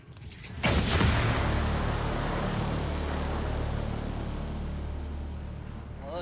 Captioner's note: target blasts; intimidating music